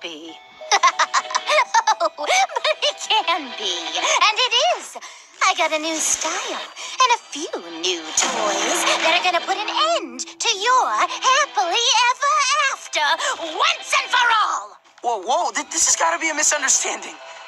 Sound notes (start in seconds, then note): 0.7 laughing; 7.9 banging